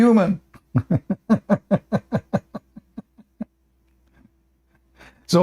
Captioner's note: Ketawa